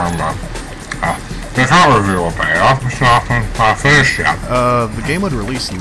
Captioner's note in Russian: чавкание